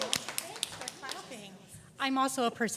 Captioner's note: audience applause